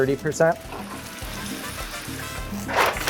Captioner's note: oil sizzling; paper rustling